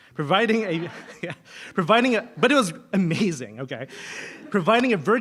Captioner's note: laugh